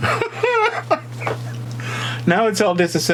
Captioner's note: man laughing